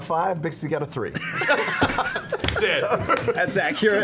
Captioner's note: laughter